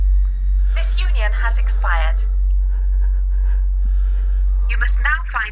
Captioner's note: robotic Voice